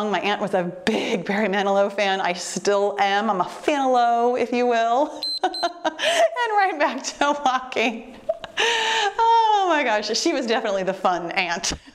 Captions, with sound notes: My aunt was a big Barry Manilow fan, I still am. I'm a Fanlow, if you will. (timer beeps) And right back to walking. (laughs) Oh my gosh, she was definitely the fun aunt.